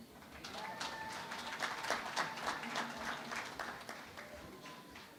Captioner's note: applause